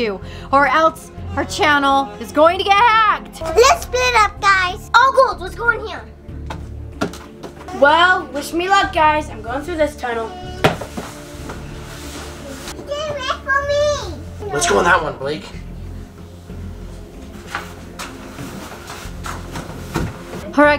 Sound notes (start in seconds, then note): 10.8 shuffling sounds; 16.6 shuffling sounds